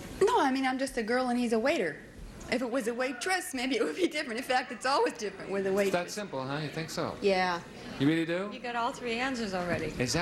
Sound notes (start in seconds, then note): none